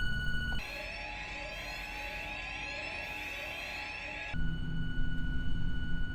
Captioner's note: flashback to every alarm going off at once